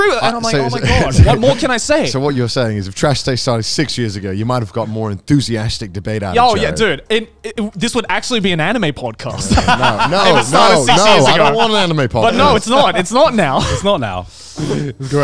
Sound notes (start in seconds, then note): 9.3 laughing